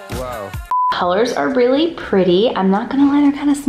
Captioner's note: beep